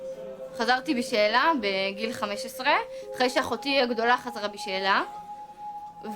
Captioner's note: speaking in foreign language